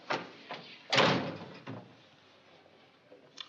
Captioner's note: door closing